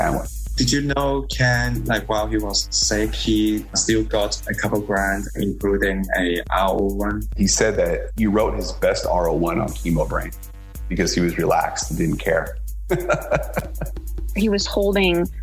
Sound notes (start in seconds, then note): 12.9 laughs